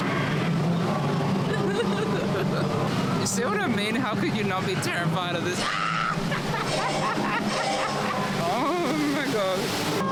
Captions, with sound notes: You see what I mean, how could you not be terrified of this- [SCREAMS] Oh my god.